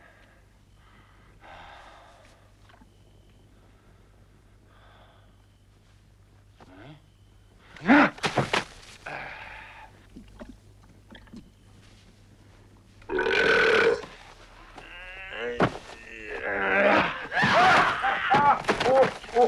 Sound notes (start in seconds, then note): 7.7 Torente grunts; 13.0 Torente belches; 14.6 Torente groaning; 17.4 Hundra shouts; 17.4 Torente grunts